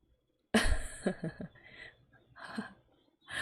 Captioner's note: laughs